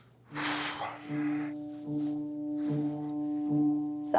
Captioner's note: sighing